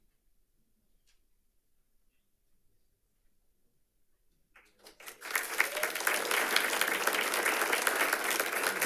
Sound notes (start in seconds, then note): 4.6 audience applauds